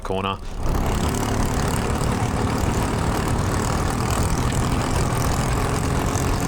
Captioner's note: engine revving